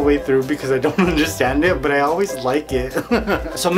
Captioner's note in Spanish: Risas